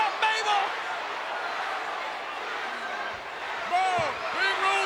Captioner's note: crowd yelling